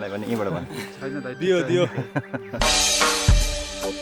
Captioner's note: laughter